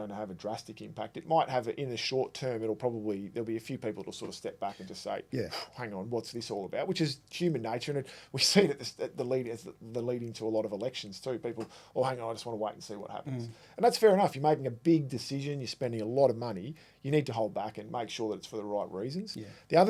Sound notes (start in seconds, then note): 4.7 exhaling